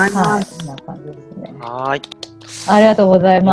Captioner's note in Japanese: 拍手